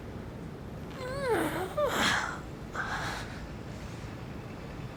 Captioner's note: pained groaning